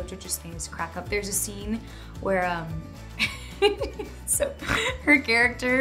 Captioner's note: laughs